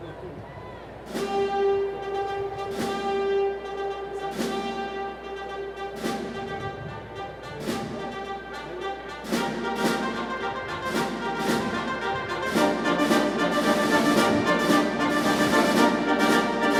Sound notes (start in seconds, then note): none